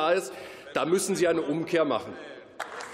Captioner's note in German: Beifall